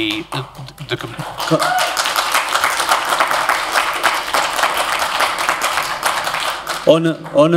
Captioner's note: applause